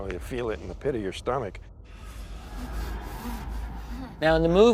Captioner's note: breathing frantically